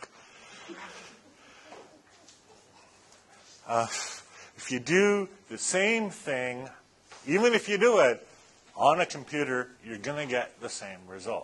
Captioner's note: laughter